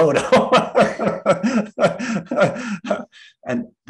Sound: laughs

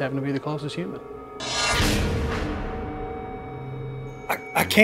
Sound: dramatic swishing

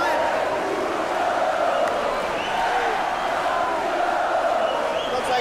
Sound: crowd chanting

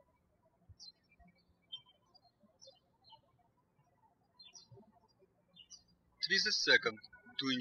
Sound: birds chirping

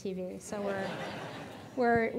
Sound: audience laughing

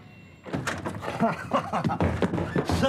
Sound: laughs

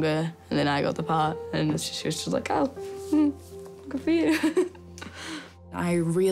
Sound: chuckles

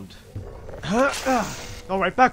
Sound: door opens; grunt

